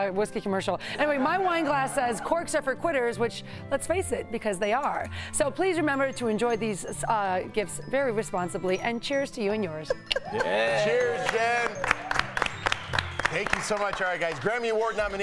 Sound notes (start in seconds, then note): 3.8 laughter